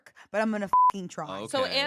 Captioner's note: beep